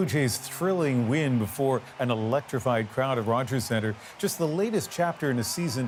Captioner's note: cheers and Applause